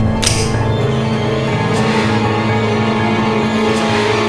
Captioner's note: tense music; knife clicking